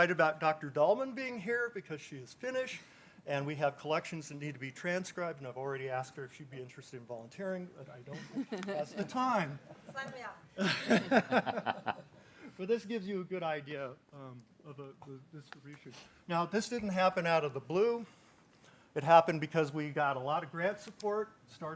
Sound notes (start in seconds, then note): 10.6 people chuckling